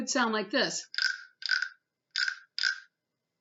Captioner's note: croaking